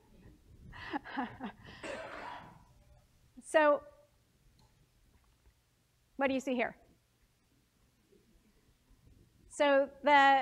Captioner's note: laugh